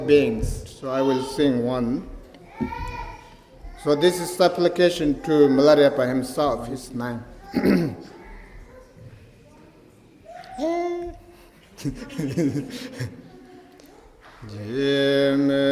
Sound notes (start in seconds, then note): 11.3 laughter